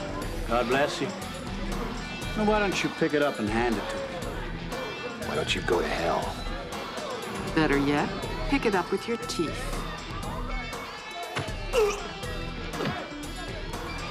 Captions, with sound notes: God bless you. Why don't you pick it up and hand it to me? Why don't you go to hell? Better yet, pick it up with your teeth. [GRUNTS]